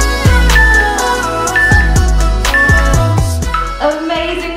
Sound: timer beeping

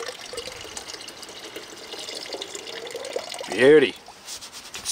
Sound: water running

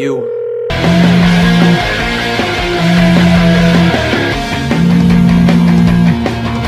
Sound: phone buzzing

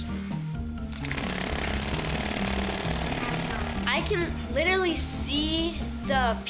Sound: vibrating loudly

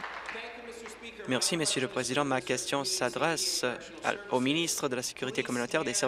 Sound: applause

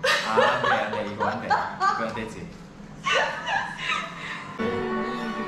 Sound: adamant

